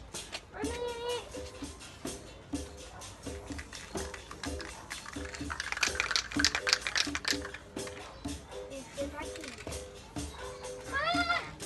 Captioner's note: children's sounds